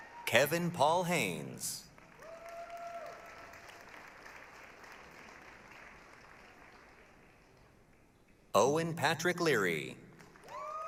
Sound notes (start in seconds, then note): 1.9 applause, cheering; 10.2 applause, cheering